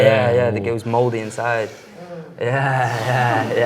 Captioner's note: guests groan